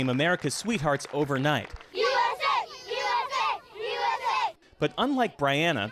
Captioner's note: applause